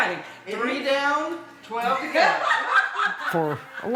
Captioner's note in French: Rires